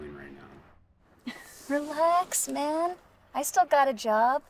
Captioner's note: chuckles